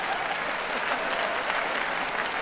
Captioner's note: cheering